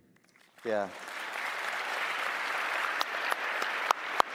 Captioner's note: applause